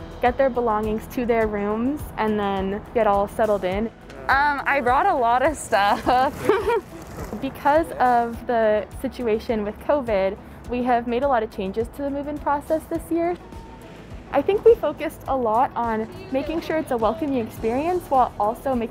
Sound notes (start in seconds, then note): 5.9 laughs